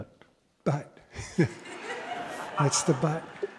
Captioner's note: laughter